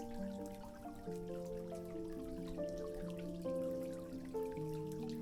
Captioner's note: water sounds